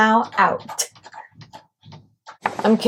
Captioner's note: scratching noises intensify